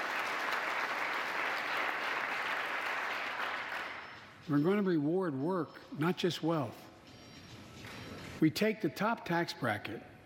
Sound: applause

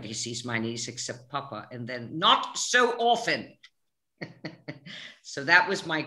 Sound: both laughing

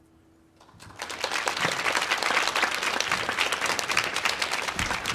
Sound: audience applauding

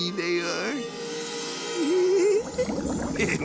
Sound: giggling

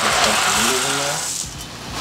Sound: rustling

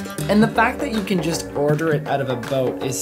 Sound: voiceover

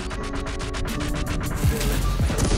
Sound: bombs exploding; guns firing

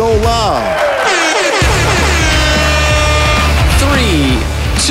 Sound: horns blow

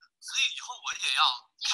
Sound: Mandarin

